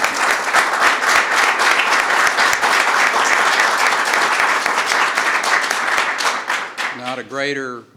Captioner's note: applause